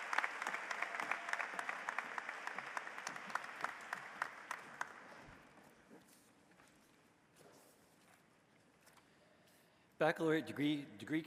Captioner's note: applause